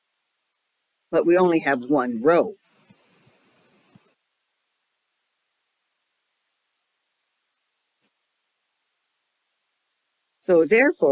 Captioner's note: 8-second silence